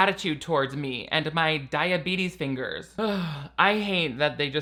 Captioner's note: sighs